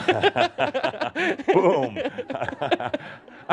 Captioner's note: they chuckle